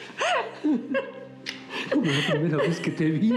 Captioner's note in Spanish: risas